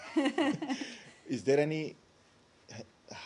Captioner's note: laughter